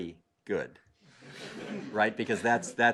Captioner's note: laugh